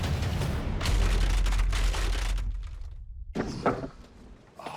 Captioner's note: cracking